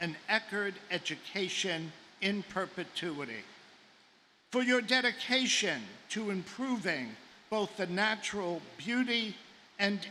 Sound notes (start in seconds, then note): none